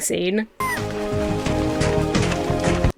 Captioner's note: birds cawing; dramatic music